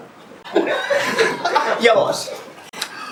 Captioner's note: laughs